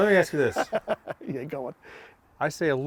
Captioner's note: laughing